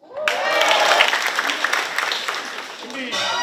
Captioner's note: people clapping